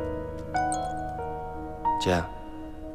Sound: ding

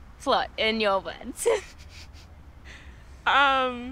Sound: both laughing

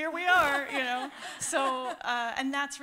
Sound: laughter

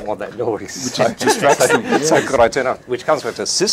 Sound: laughing

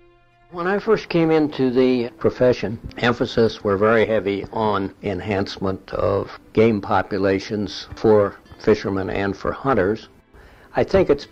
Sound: archival audio

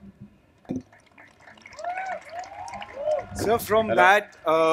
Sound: cheering/Applause

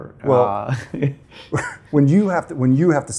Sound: laughing

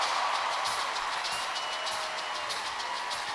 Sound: cheers and applause

